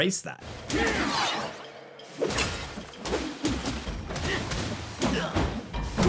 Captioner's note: game characters grunting and yelling